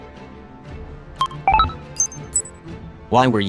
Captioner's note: clicks and Beeps